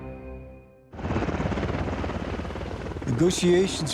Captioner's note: helicopter blades spinning